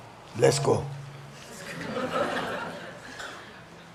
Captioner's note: audience laughs